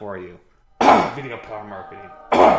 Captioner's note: clears throat; clears throat